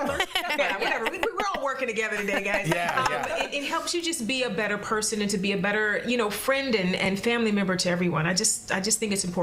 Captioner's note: laughter